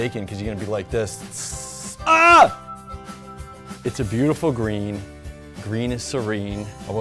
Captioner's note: imitates bacon frying then screams